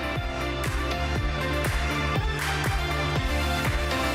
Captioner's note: applause